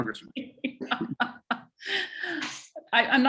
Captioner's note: laughs